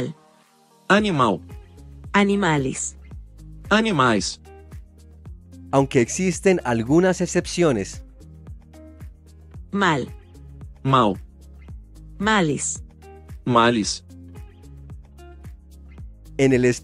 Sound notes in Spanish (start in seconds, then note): 2.9 español; 3.6 espanhol